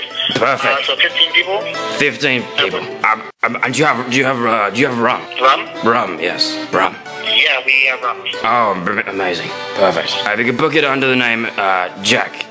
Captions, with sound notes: Perfect! 15 people Uh [Stutters] Do you have rum? Rum, yes, rum Oh, amazing, perfect Uh, if you could book it under the name uh, Jack